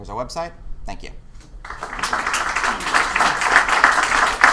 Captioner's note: applause